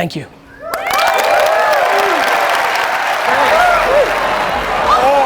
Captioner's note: audience applauds